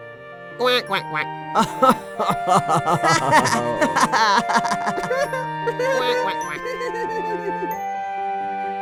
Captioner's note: laughter